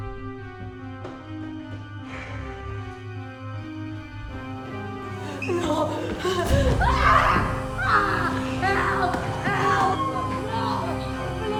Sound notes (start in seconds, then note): 6.9 screaming